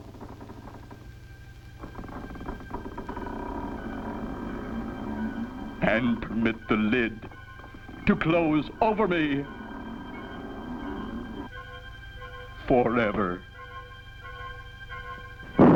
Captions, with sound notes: (creaks) And permit the lid to close over me forever.